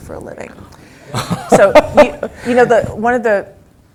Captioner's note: laugh